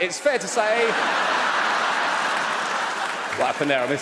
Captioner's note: audience laughs